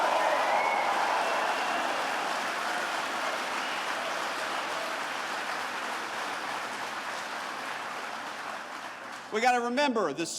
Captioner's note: applause